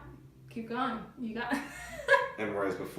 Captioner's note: laughs